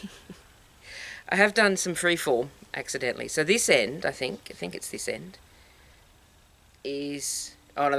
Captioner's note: laugh